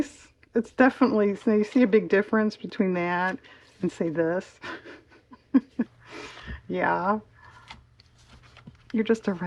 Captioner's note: laugh